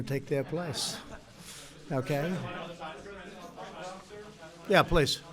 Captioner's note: laughter